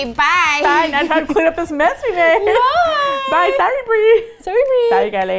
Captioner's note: high-pitched voice